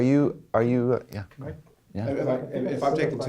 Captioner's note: voiceover